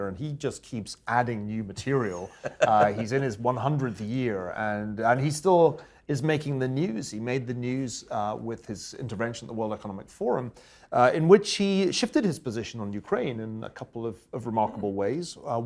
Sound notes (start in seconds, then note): 2.0 laugh